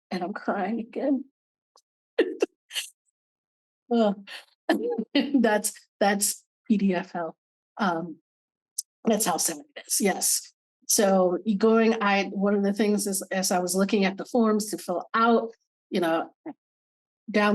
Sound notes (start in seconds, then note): 4.7 laughing